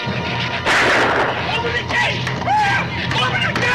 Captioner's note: gun fires; shrews chatter; yelps